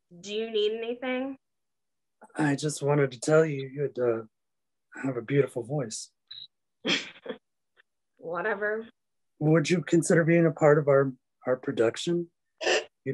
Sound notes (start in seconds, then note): 6.9 chuckles